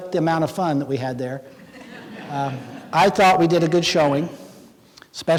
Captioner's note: laughing